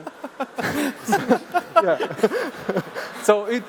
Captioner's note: laughs